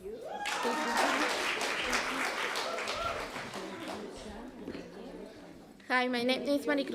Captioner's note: applause